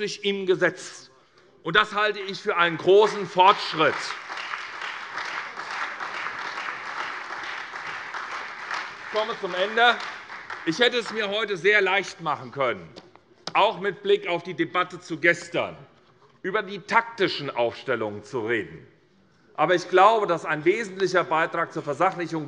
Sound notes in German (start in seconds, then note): 4.0 Beifall SPD und Freie Demokraten